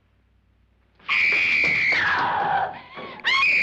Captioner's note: screaming